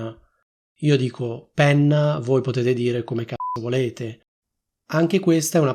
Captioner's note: beep